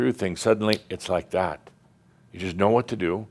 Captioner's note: snap!